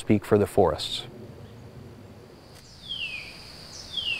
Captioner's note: birds chirping, forest ambience